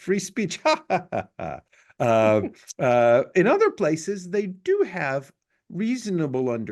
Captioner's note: laugh